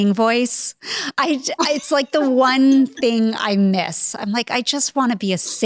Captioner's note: Jill laughing